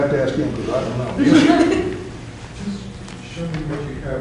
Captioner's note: laughter